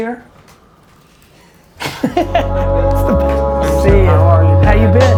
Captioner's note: laughing